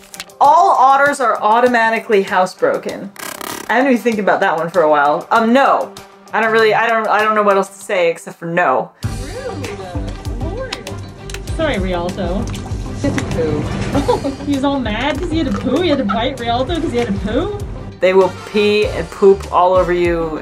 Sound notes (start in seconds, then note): 3.0 glitch sound effect; 9.0 background music